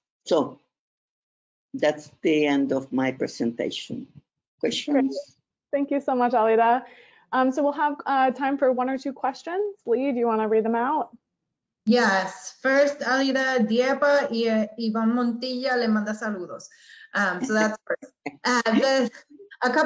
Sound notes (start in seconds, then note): 13.7 speaks in foreign language; 17.3 laughs